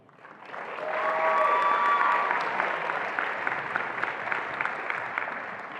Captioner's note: attendees applauding and cheering